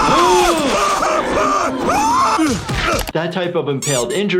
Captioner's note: Joe groaning in pain; gasps